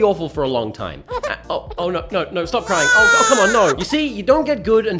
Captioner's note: baby Crying